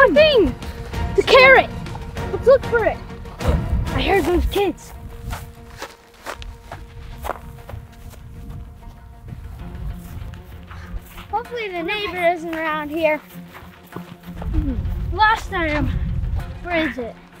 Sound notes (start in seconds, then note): 4.8 footsteps